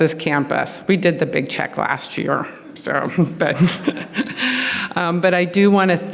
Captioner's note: laughs